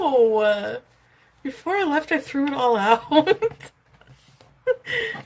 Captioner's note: laughs